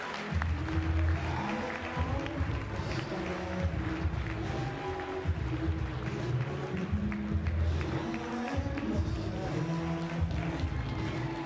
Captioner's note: applause